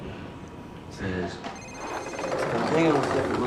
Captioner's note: cellphone phone rings